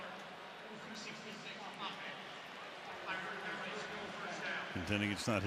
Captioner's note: referee call